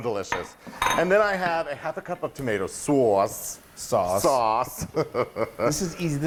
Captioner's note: laugh